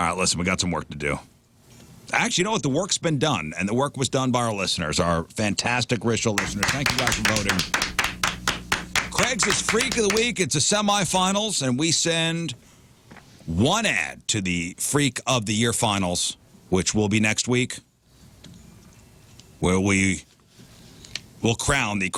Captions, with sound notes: listen, we got some work to do. Actually, you know what the work's been done and the work was done by our listeners, our fantastic, rich, original listeners. Thank you, Dr. Bowden. (Applause) Craigslist Freak of the Week. It's a semi-finals and we send one ad to the Freak of the Year finals, which will be next week where we will crown the